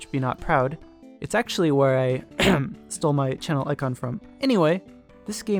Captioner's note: cough